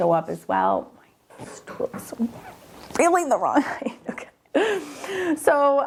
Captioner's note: chuckles